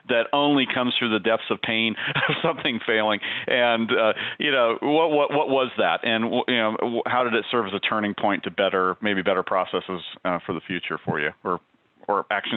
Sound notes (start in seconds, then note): 2.0 giggles